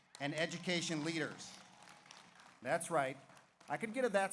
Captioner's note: audience applauds